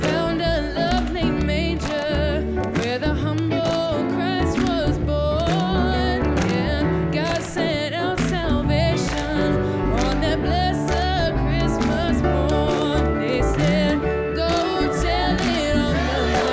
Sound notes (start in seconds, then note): 7.7 applause